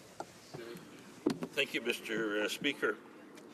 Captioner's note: speaking French